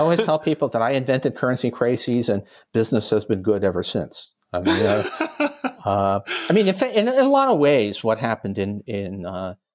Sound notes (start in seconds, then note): 0.0 chuckle; 4.6 chuckle